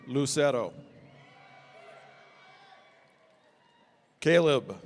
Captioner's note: audience cheering